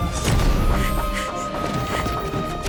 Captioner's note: panting